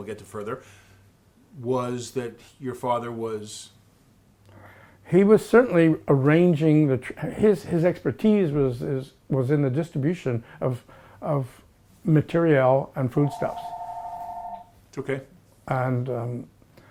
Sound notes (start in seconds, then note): 13.2 phone ringing